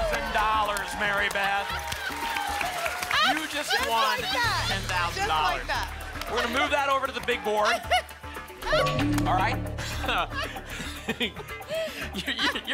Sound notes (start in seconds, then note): 0.0 applause and cheering; 7.9 laughs; 10.2 laugh